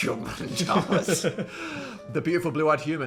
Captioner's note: Phil laughing